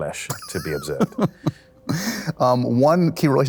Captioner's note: laughs